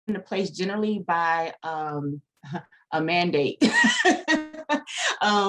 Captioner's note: laughter